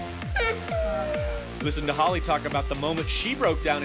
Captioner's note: sobbing